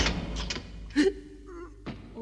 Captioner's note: cell door slams shut and locks; Toad sobs